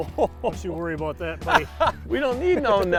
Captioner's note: water splashes; laughs; laughter